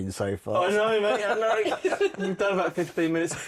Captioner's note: laughter